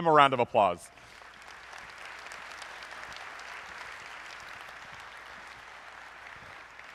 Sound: applause

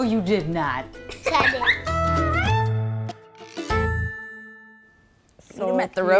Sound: laughter

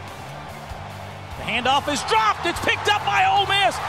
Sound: voiceover

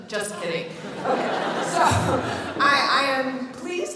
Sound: audience laughs

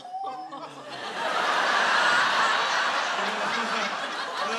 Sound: laughter

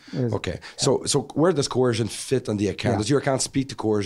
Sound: voiceover

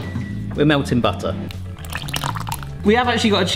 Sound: liquid pouring

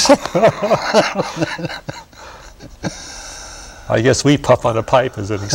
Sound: laughter

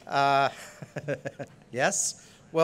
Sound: laughs

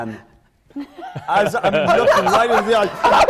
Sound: laughter

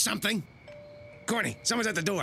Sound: <i>doorbell rings</i>

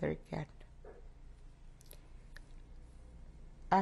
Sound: pauses for 3 seconds

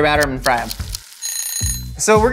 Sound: kitchen timer rings

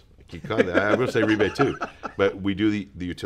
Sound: laughs

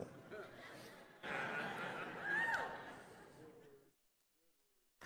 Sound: audience laughing

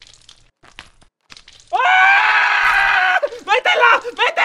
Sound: more Screams

